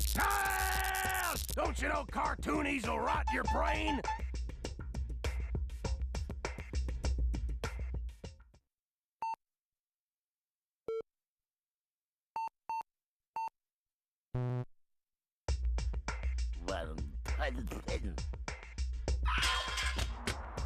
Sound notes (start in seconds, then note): 9.2 beeping; 17.2 muttering